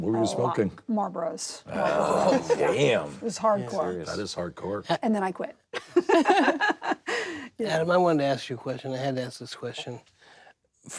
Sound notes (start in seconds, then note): 6.1 laughs